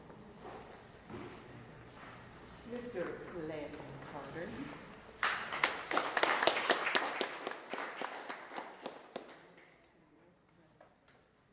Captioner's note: applause